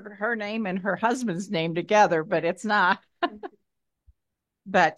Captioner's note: laughs